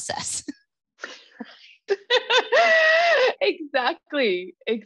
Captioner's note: laughs